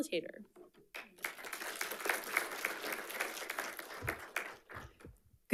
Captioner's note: audience applauding